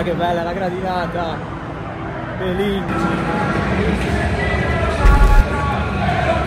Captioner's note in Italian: Applauso